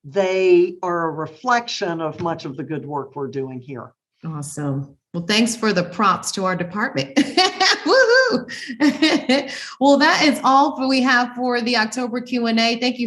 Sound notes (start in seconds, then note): 7.2 laughing